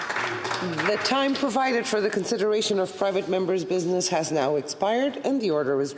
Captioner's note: some Applause